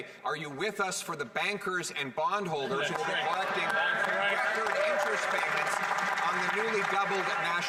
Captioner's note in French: voix de l'interprète